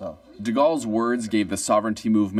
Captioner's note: speaking French